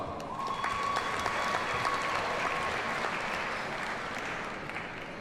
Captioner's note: audience cheers and applauds